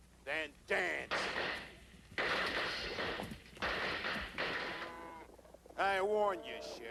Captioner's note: gunshots